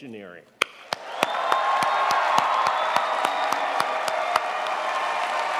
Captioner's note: audience applauding